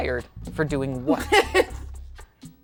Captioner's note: laughing; intense music